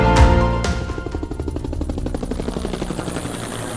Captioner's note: helicopter whirs